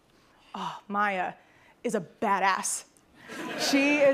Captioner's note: laughter